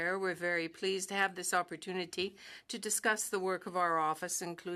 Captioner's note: speaking French